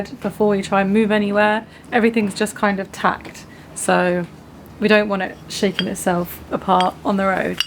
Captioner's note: none